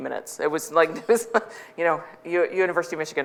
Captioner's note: laughs